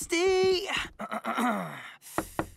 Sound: clears throat

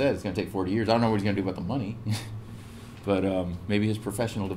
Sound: laugh

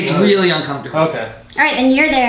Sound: voiceover

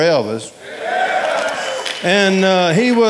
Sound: audience cheering

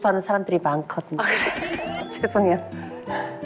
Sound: burst into laughter

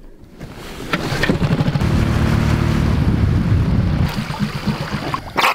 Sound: boat motor roaring

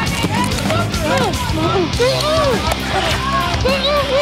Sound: yelling

